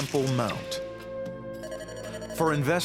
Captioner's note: beeps